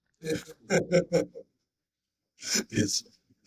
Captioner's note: laughing